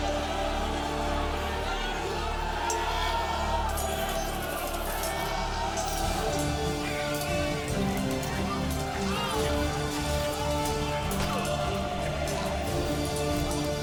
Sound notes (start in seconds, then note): 1.4 all shouting; 3.5 swords clanging, men fighting